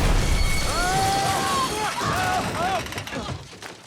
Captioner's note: screaming